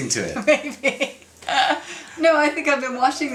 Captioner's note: laughs